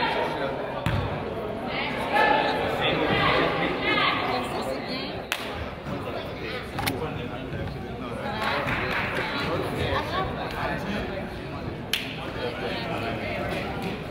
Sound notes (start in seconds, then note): 8.6 player claps